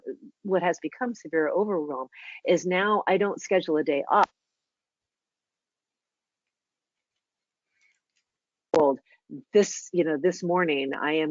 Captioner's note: audio cuts out